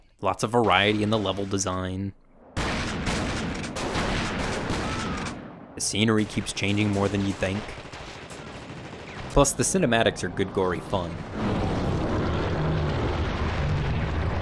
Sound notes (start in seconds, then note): 2.6 guns shooting; 8.0 guns shooting; 11.3 monster growling